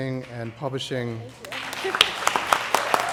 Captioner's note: applause